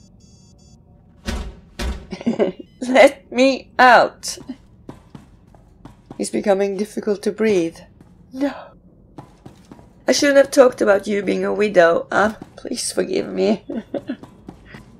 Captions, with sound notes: (banging on door) Let. Me. Out! It's becoming difficult to breathe. No! I shouldn't have talked about you being a widow. Please forgive me! (chuckles)